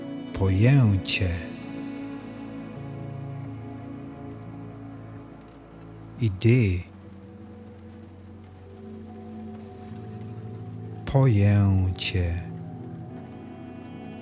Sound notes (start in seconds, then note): 7.3 german